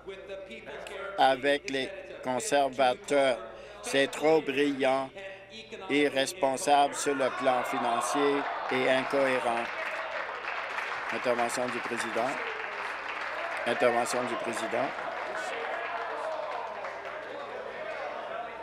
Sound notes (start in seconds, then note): 13.8 applause